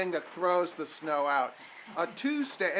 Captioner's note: none